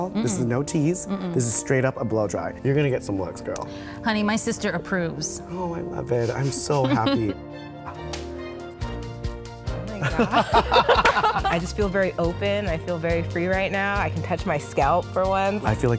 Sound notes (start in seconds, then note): 9.9 both laughing